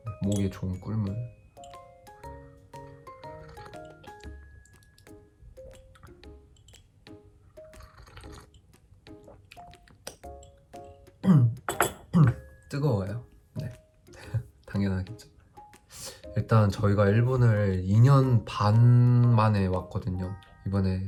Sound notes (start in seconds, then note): 3.0 slurp; 3.2 sip; 4.8 sluuuuurp; 7.6 sip; 9.6 slurp